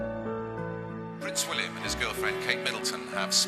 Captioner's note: voiceover